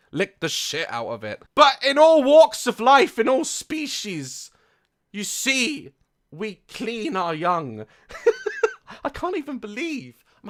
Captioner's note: laughs